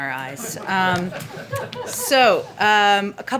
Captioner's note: laughter